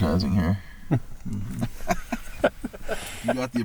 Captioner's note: laughing